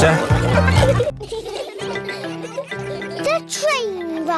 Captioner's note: laughter